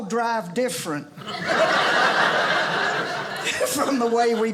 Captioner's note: audience laughing